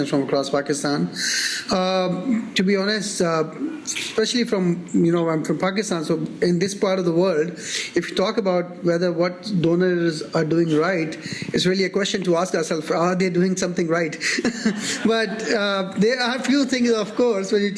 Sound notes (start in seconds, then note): 14.3 audience laughing